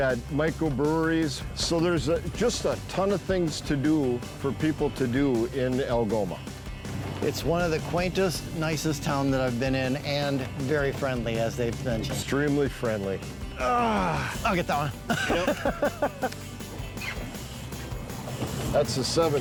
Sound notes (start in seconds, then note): 13.6 groans; 16.0 laughs